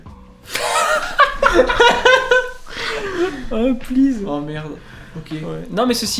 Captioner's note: laugh